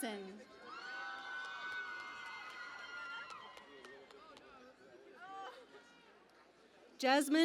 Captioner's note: cheering and Applause